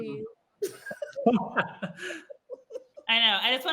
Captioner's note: participants laugh